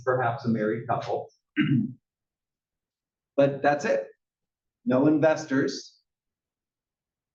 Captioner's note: cough